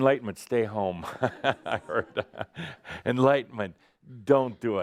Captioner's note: Adamus chuckles